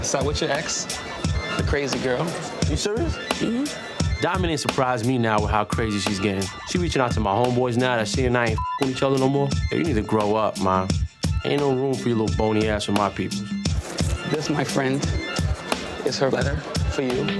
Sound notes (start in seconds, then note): 8.6 beep